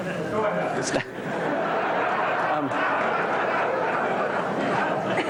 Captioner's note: laughter